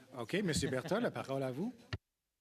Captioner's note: speaking French